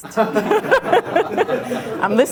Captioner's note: laughter